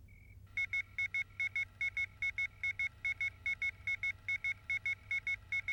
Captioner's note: computer beeping rapidly